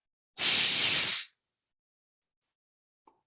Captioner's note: loud static